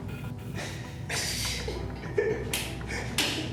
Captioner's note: both laugh